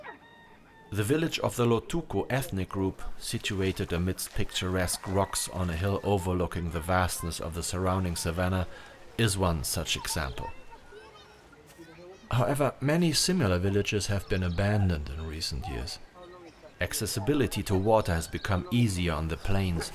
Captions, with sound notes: The village of the Lotuko ethnic group situated amidst picturesque rocks on a hill overlooking the vastness of the surrounding savannah is one such example. [INDISTINCT CHATTER] However, many similar villages have been abandoned in recent years. Accessibility to water has become easier on the plains